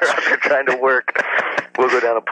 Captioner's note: laughs